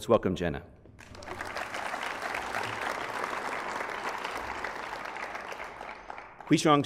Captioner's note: applause